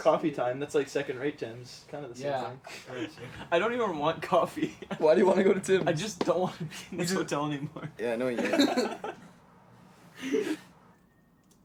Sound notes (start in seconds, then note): 2.7 laughs; 8.3 laughs